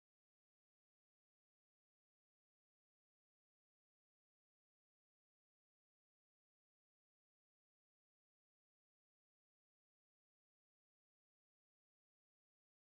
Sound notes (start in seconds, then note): none